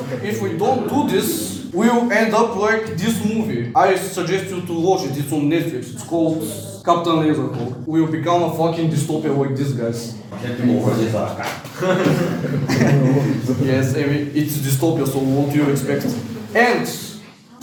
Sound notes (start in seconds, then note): 11.3 laughing